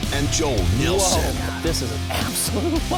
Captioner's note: voiceover